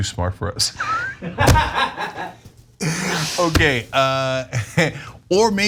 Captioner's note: laugh